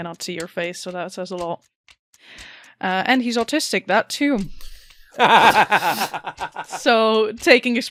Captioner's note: laughter